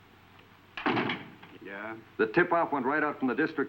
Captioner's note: door latching